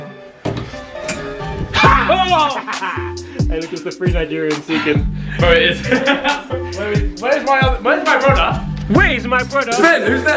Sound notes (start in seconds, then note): 1.7 scream; 5.4 laughing